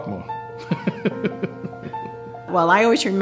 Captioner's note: laughter